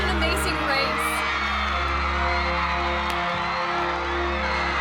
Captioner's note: cheers